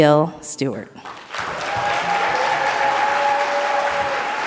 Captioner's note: audience applauds